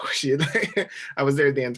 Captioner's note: laughing